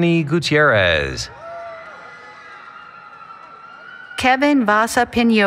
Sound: cheering

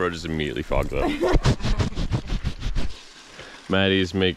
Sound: laughter

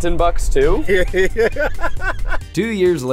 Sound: laughs

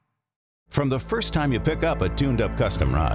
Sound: voiceover

